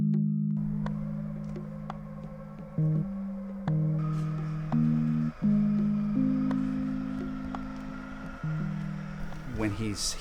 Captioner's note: Humming of the VGo Robot